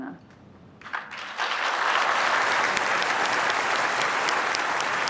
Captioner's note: applause